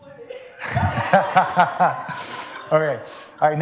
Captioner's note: laughter